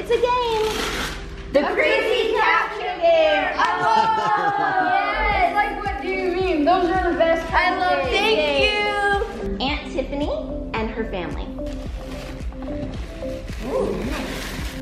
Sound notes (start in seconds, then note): 3.1 all exclaim in unison; 3.8 laughs